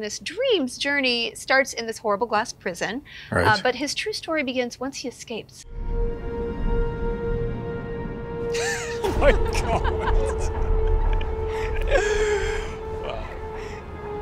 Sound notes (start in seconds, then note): 5.7 dramatic music; 8.5 laughing